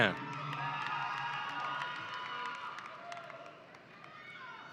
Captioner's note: audience cheering